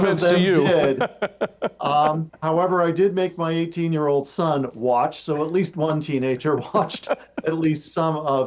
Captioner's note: chuckling